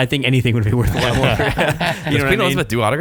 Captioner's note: laughing